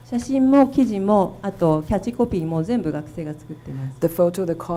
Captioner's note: speaking foreign language